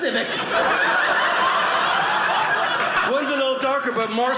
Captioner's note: audience laughing